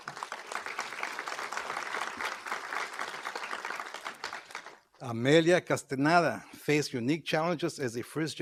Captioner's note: applause